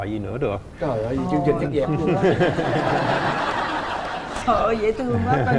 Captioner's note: laughing